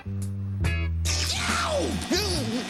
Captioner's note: zap